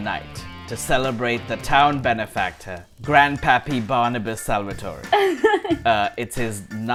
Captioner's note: laughter